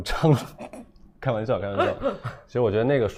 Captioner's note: laughs